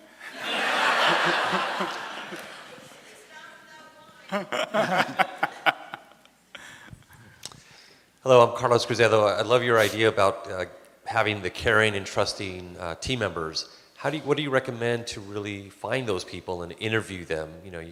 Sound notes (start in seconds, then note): 0.1 laughter from audience; 4.3 men chuckle